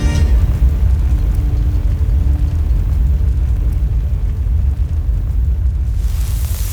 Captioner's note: music fades; infernal whoosh-crackle; fizzing